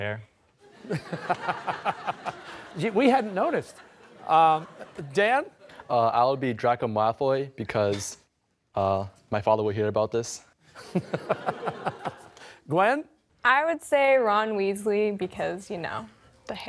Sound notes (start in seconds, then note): 0.7 laughter; 10.7 laughter